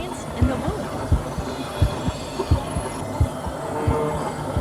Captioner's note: heartbeat